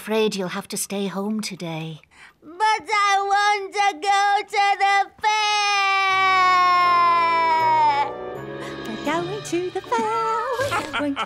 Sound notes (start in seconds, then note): 5.3 cries